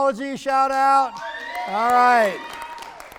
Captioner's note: people cheering